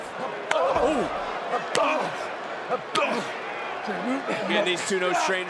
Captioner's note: audience cheering